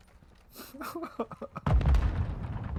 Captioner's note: laughs in disbelief